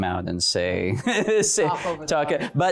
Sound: chuckling

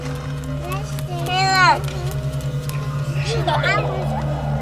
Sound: background chattering; child laughing

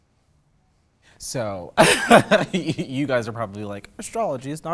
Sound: laughing

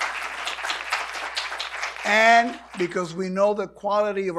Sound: applause

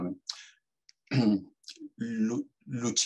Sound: clears throat

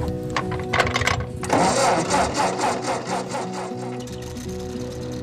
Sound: engine starting

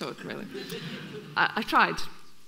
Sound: audience laughing

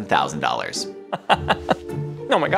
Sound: laughing

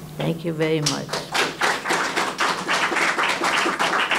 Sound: applause

